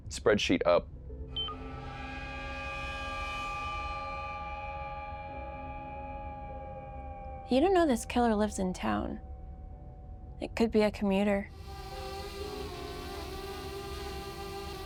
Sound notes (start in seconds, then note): 1.3 screen beeps; 1.5 eerie music; 11.5 drone whirring